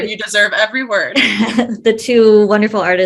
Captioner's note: chuckles